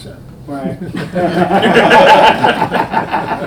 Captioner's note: men laughing